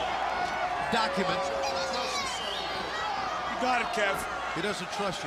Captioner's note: crowd chatter